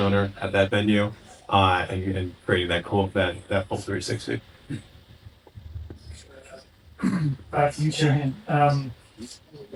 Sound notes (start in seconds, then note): 7.0 clears throat